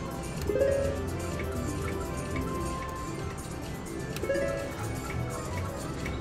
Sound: machine beeps

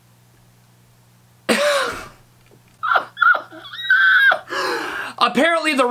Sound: laughing into his hands

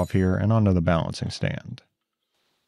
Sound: tool clinks; part clanking

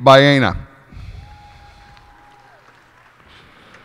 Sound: cheers and applause

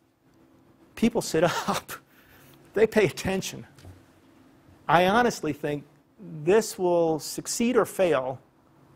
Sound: laugh

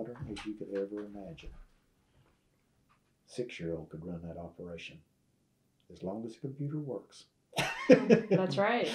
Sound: laughs

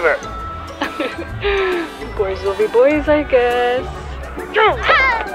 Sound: nervous laugh

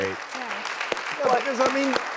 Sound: audience clapping

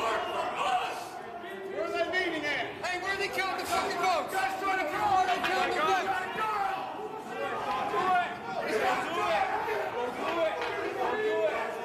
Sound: yelling

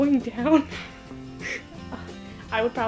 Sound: laughs

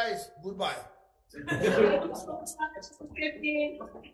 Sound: several laugh

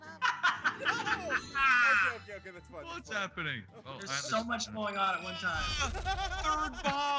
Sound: laugh

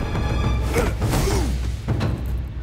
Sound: grunting

